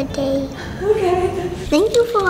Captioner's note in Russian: смеется